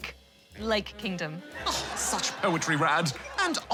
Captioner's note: silence; laughter